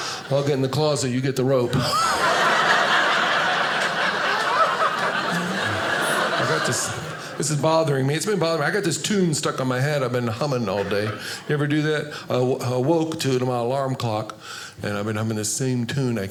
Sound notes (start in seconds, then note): 1.6 audience laughing